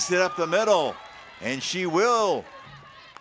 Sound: crowd cheering

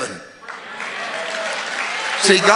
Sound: congregation cheering

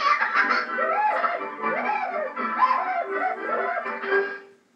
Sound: whooping

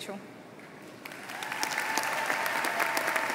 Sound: speaking Spanish; applause

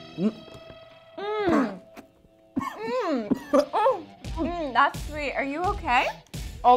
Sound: coughing

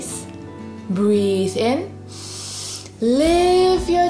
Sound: breathes in deeply

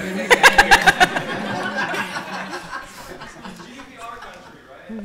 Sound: audience laughing

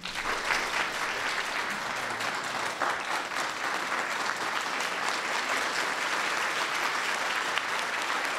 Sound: applause

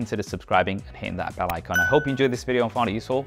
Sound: bell pings

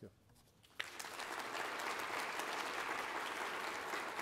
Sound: applause

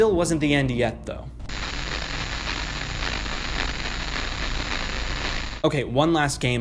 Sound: audio static

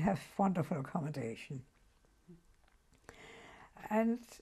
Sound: pauses for 3 seconds

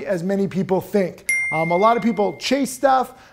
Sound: bell ringing

